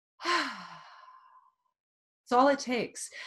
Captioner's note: exhales loudly